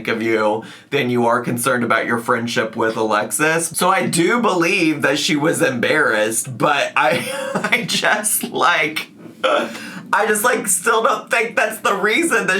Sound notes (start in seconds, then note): 7.0 laughs